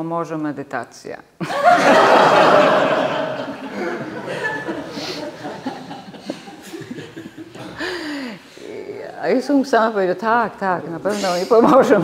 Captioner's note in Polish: śmiech